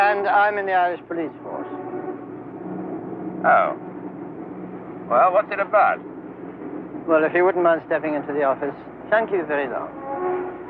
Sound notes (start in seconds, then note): none